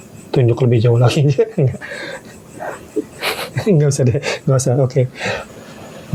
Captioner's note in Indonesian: tertawa